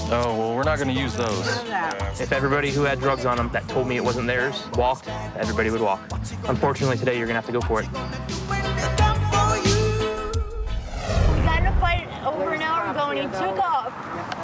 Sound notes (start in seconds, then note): 10.1 whoosh